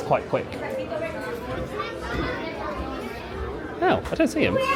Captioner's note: people chatter